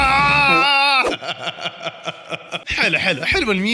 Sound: laughter

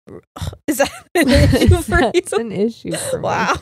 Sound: laughs

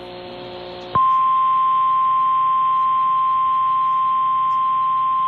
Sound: 1050 HZ tone

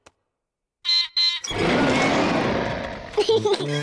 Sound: beeps and roars; laughs

